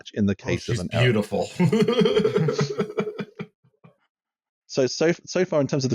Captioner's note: laughter